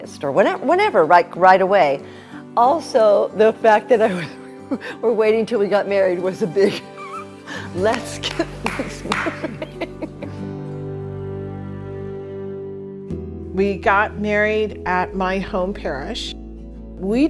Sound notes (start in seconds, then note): 6.6 laughing; 10.1 gentle music